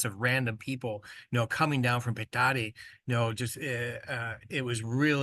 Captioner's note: speaks Spanish